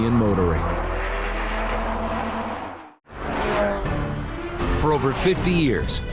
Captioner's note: car engine roars